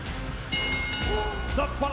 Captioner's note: bell rings